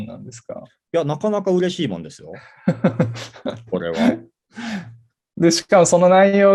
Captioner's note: laugh